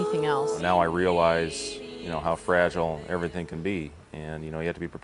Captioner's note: voiceover